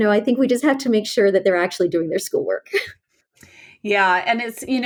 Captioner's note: laughs